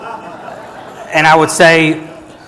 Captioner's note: audience laughing